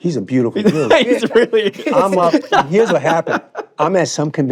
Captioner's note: laughing